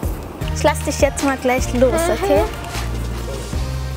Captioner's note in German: ängstlich